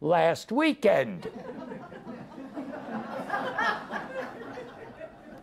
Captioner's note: audience laughs